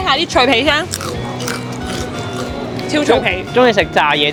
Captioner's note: crunch, crunch